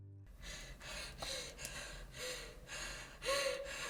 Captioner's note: Abby pants